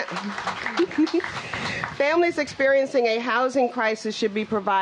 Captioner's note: applause